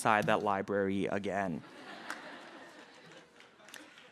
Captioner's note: laughter